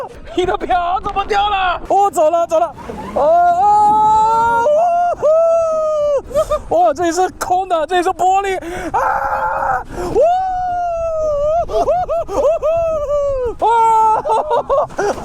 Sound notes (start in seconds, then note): 4.6 monkey calls; 10.1 baboon calls